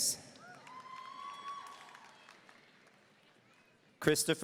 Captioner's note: audience cheering